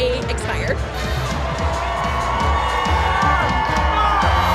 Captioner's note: crowd cheering